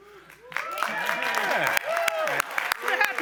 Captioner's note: applause